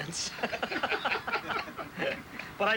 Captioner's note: laughter